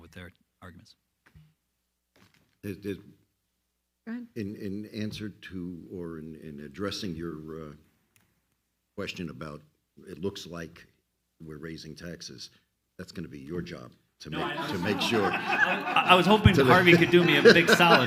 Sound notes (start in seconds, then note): 14.3 all laugh loudly